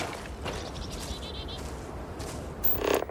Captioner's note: ground crunching underfoot